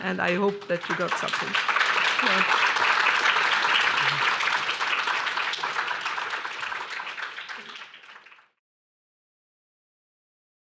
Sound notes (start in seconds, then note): 2.4 applause